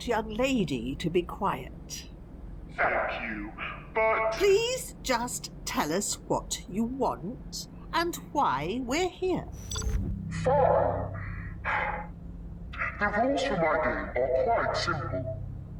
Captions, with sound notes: Thank you...But... Fine...(sigh)... The rules for my game are quite simple.